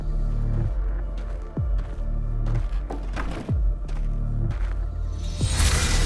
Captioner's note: footsteps; footsteps continue; fire whooshing